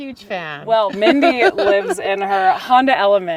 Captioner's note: laughs